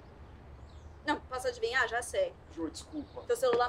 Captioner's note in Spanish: en portugués